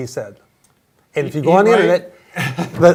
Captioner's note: laughs